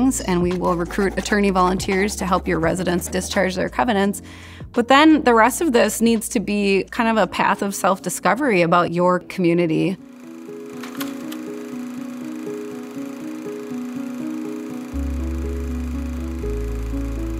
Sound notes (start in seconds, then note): 10.0 film projector whirs; 10.9 pensive music